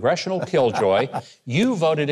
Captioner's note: laughing